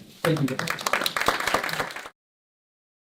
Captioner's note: audience applause